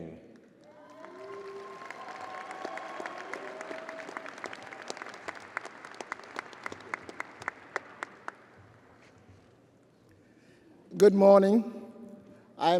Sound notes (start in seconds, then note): 5.2 audience applauding and cheering